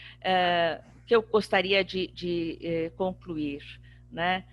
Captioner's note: speaking portuguese